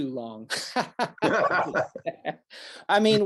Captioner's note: both laugh